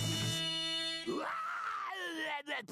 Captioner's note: yelling